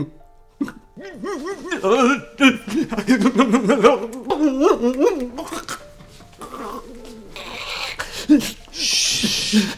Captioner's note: convulsing and moaning